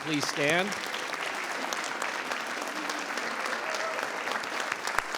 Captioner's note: audience applauds